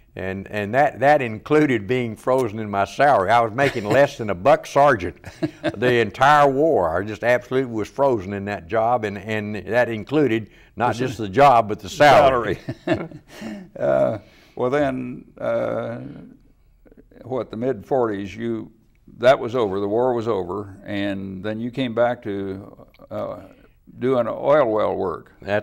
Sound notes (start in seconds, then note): 5.0 laughs; 12.2 laughs